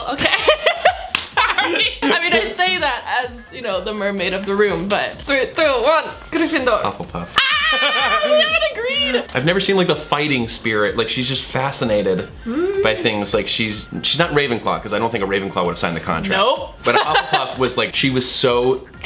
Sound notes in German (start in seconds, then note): 0.2 lacht; 16.8 lacht